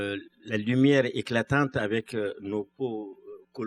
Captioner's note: speaking french